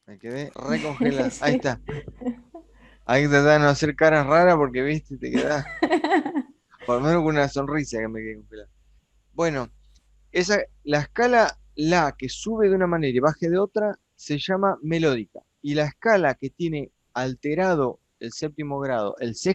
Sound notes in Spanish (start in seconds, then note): 5.2 risas